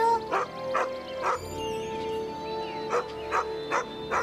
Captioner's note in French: Aboiement de chien